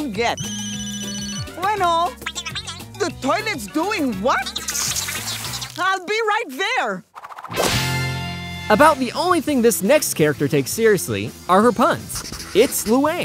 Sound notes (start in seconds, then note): 0.3 indistinct chattering; 0.4 ringing; 4.3 indistinct chattering